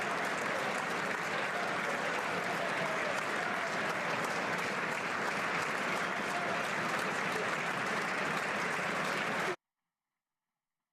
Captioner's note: applause